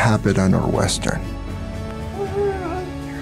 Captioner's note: cooing